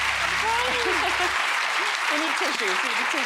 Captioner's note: crowd claps; laughs